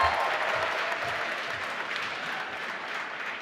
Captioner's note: applause